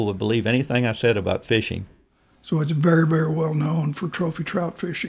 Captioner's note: laughs